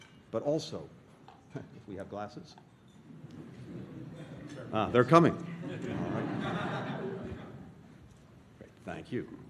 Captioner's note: laughter